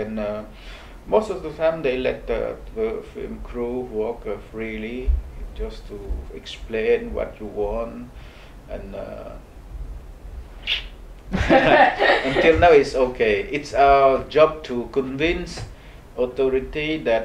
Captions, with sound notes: and most of the time they let the film crew walk freely, just to explain what you want and-- (whistles) (laughs) - Until now, it's okay, its our job to convince authority